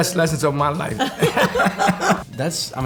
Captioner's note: laughter